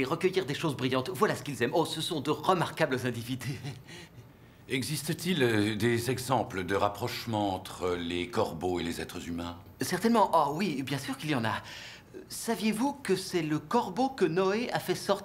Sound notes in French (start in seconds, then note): 3.4 rire